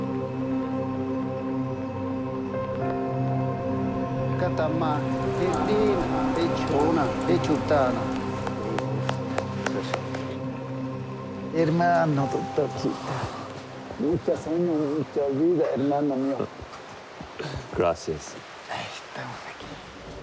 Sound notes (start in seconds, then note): 4.1 speaking Spanish; 18.4 speaks Spanish